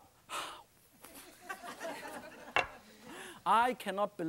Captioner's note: laughing